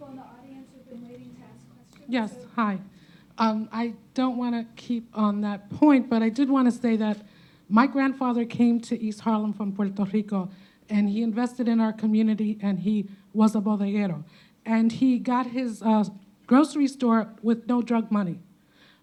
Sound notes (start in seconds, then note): 13.8 speaking Spanish